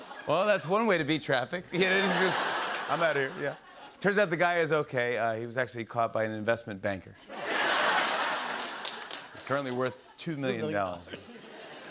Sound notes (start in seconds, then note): 1.7 laughter; 7.2 laughter